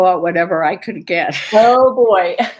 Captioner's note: laughter